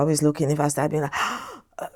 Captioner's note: inhale